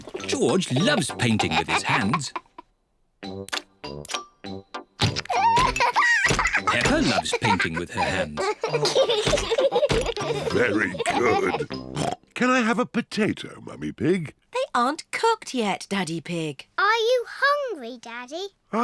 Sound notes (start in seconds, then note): 5.3 laughs; 8.8 both laugh